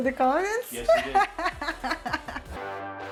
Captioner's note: laughs